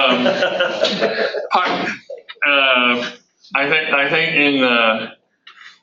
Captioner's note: audience laughter